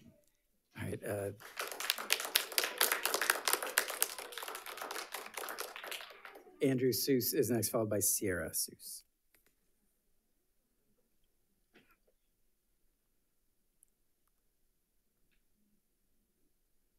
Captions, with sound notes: - All right. (audience applauds) Andrew Seuss is next, followed by Sierra Seuss.